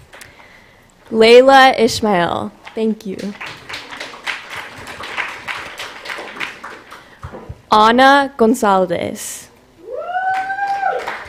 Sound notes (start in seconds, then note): 3.2 applause